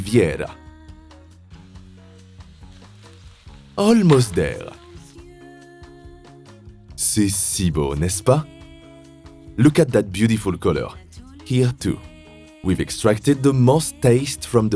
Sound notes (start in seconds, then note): 4.4 speaking French